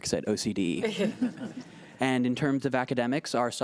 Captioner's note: laughing